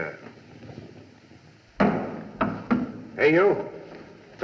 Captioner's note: object Clatters